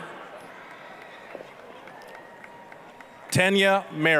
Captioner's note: applause, cheering